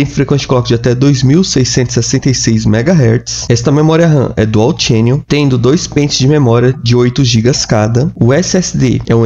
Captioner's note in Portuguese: clock